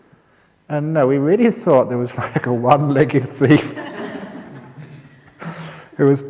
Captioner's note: laughter